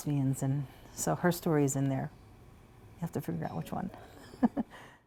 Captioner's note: laughter